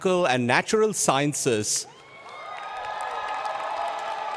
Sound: cheers and Applause

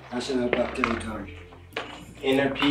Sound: mutters

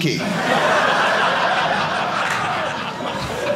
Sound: audience laughing

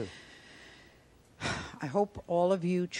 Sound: sighing

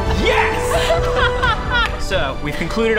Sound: laughter

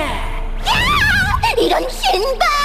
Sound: screaming

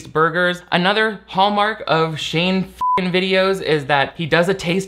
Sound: beep

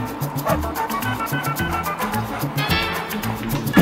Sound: dog barking

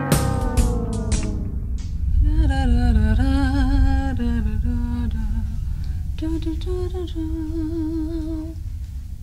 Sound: humming

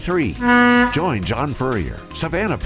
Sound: boat honks

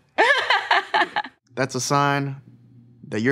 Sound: Ashley laughs

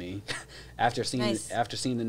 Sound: chuckles

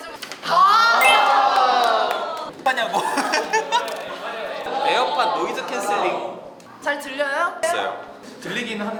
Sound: applause

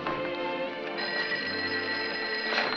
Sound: phone ringing

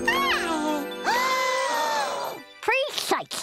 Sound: cooing; gasping

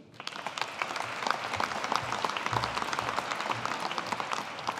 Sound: audience applauding

